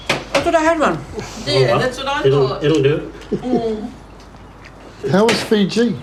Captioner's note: chuckles